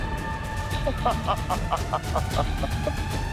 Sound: evil laughter

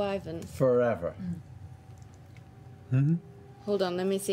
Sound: questioning bear noise

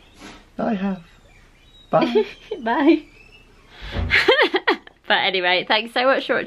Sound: laughing

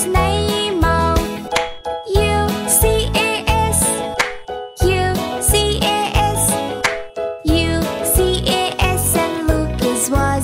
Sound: clap

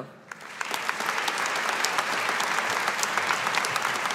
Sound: audience applauding

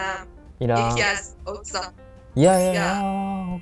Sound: Farsi

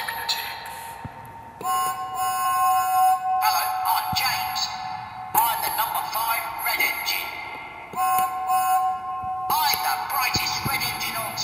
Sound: whistle blows

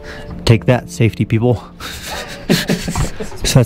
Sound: men chuckling

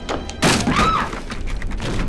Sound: wood creaks; thudding; Rosemary screams; light dramatic music

